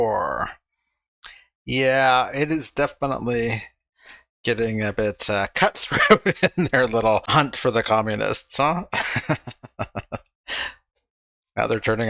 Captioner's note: laughing